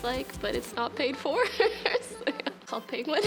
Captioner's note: laughs